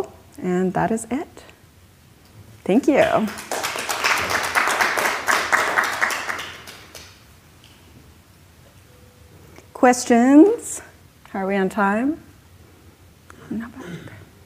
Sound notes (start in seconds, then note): 3.1 clapping